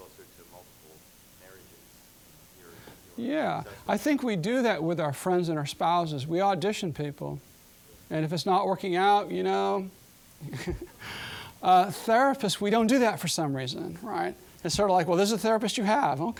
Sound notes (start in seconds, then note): 10.4 chuckling